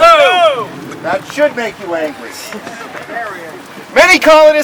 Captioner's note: crowd